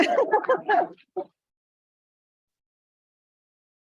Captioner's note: laughs; participant laughs